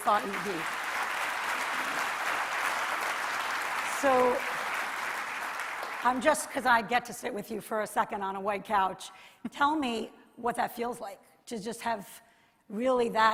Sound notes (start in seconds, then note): 3.6 applause